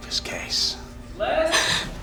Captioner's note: gasps